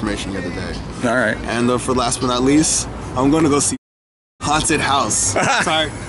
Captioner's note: excitedly; both laugh